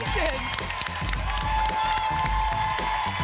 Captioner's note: applause and cheering cont